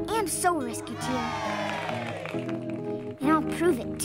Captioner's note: citizens cheer